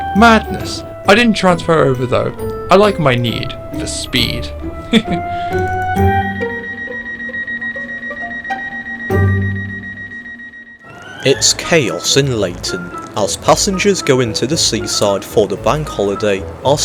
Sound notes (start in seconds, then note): 4.6 chuckles